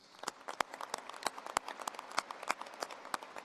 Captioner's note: applause